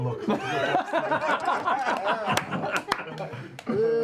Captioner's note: laughter